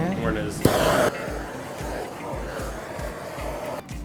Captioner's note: blowtorch whirs